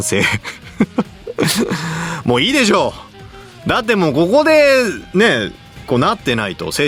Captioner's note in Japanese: 笑い